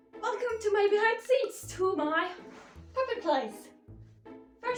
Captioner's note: none